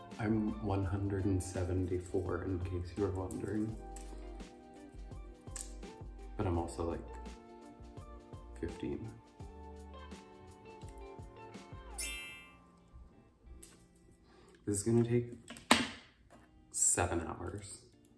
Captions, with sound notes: I'm 174, in case you were wondering. But I'm also like 15. (chimes ringing) This is going to take seven hours.